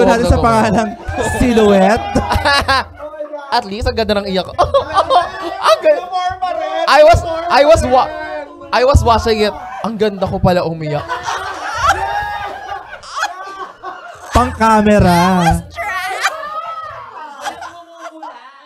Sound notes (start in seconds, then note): 2.4 people continues laughter; 6.0 mimics crying; 11.1 mimicks crying